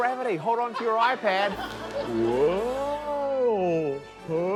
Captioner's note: laughter